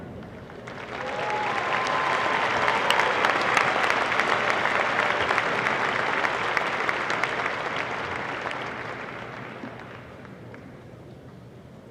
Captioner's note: applause